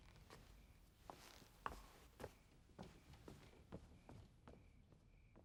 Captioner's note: crickets chirping